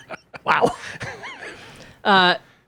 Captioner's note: laughs